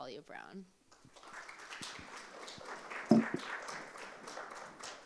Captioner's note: applause